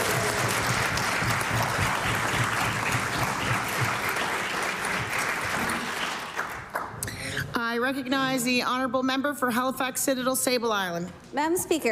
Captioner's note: cheering/Applause